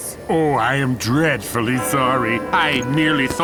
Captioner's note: bell tolls